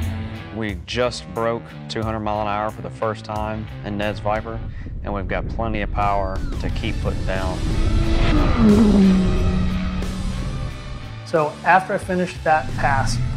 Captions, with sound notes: We just broke 200 mile an hour for the first time in Ned's Viper and we've got plenty of power to keep putting down. (car engine roaring) (rock music) - So after I finished that pass,